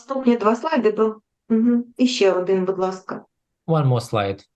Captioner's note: foreign Language